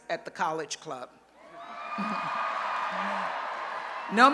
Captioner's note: cheering